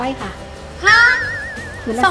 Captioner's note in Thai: ร้องตกใจ